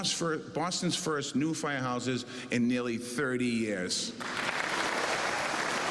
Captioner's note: cheers and applause